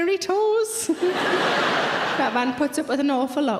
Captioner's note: audience laughing